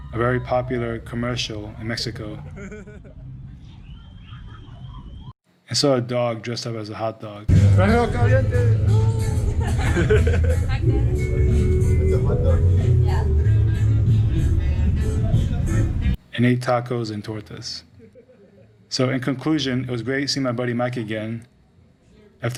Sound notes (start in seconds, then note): 10.0 'hot dog' in spanish